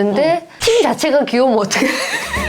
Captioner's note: laughing